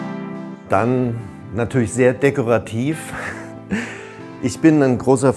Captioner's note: laughs